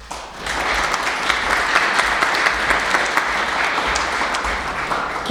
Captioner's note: applauses